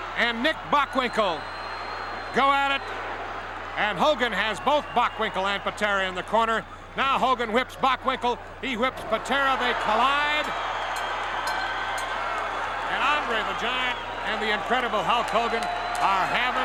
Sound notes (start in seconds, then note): 11.4 bell ringing